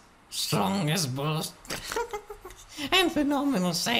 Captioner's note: chuckle